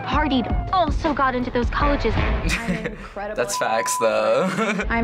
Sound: chuckles

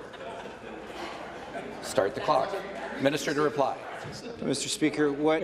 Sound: laughter

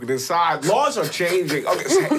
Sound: puffing

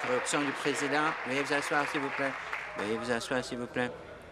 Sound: applause

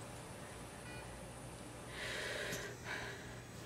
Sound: inhale

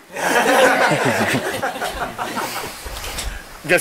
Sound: laughing

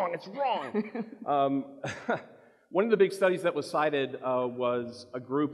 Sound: chuckles

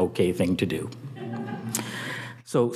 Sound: audience chuckling

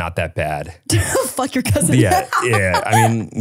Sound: laughs

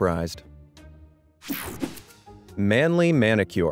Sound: transition zapping

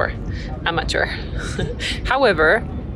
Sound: chuckles

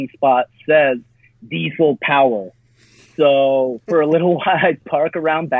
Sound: chuckles

